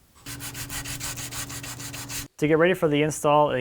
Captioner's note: light sanding